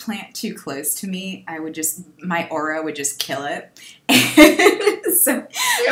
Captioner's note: laughs